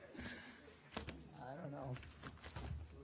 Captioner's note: off-mike; laughter